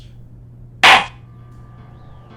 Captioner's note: gavel slams!